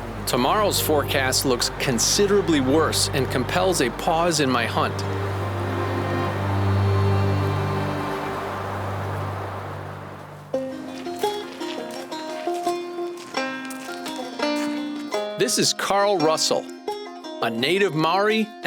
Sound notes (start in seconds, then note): 5.3 somber violin music; 5.3 wind blows; 10.5 upbeat folk music; 10.6 gravel crunches